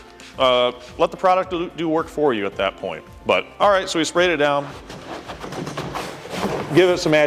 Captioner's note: scrubbing noises